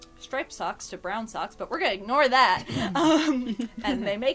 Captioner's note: laughter